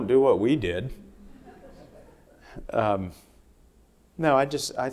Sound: audience laughing

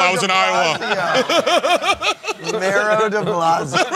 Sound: laughing; laughter

